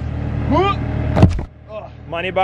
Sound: thuds

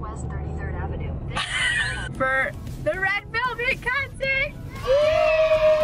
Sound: laughing

